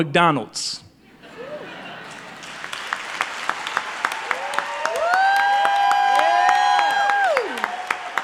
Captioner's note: applause